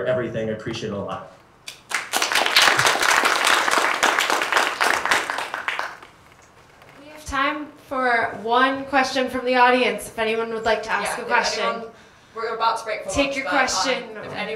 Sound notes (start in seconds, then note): 1.8 applause